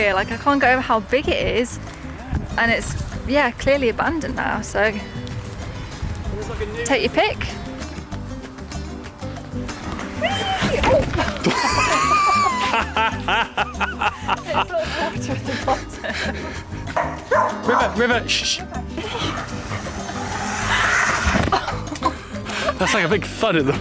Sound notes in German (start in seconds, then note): 11.1 lacht laut; 14.6 lacht